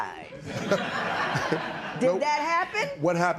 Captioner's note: laughter